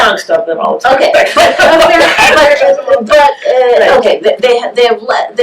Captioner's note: laughter